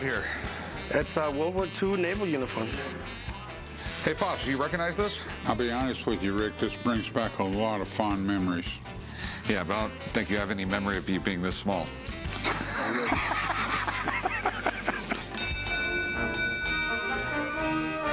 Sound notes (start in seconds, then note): 12.2 laughs; 15.2 ringing bell; 16.8 brass music